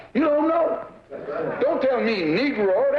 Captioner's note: voiceover; voiceover